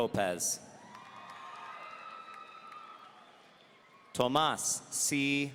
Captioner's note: audience cheering